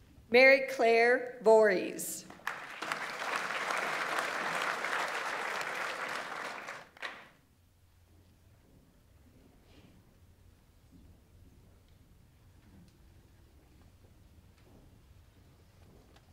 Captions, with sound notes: Mary Clare Voreis. (audience applauds)